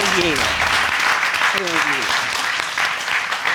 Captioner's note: audience applauding